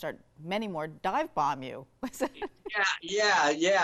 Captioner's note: laughs